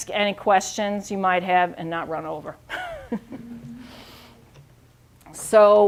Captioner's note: chuckling